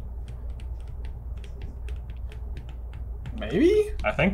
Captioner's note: markers writing